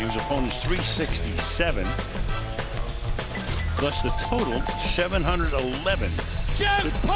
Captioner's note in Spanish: hablan en inglés